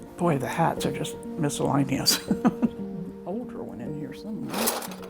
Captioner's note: light music continues; chuckles